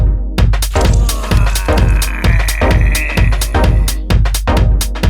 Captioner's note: sound of strangling